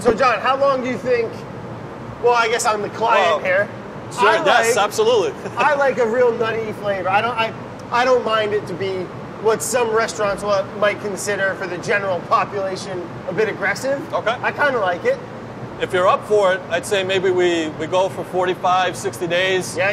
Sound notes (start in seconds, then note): 5.3 laughs